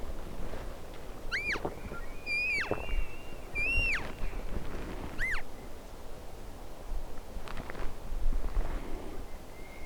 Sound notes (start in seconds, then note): 1.3 elk bugling; 1.3 calf calling